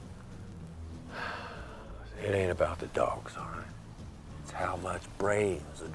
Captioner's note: sighs